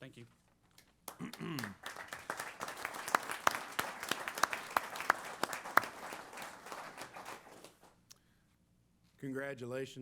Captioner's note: applause